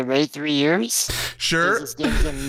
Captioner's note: laughs